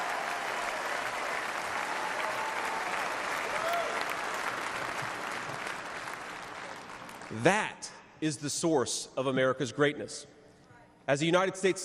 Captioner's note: cheers and applause